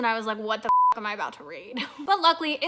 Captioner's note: beep